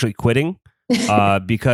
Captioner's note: laughs